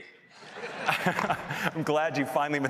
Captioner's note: laughter